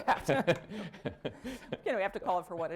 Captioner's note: laughter